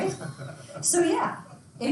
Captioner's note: students laughs